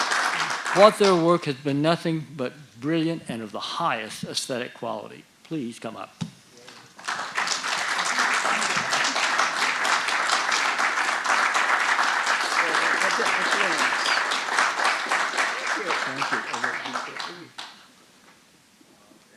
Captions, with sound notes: What their work has been nothing but brilliant and of the highest aesthetic quality. Please come up. (audience applauding) - Thank you. - Thank you.